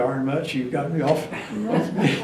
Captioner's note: laughs